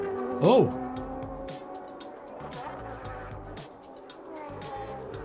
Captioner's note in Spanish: el motor ruge